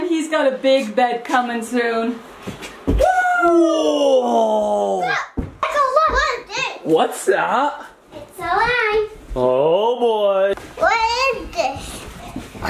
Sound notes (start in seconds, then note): 2.9 cheer